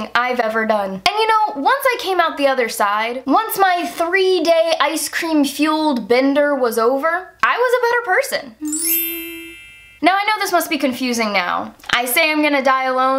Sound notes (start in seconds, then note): 8.6 wind chimes